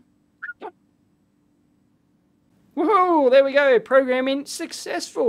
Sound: whistles

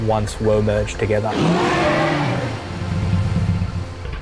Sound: roaring

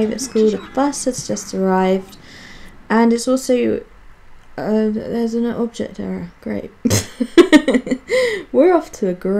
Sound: laughs

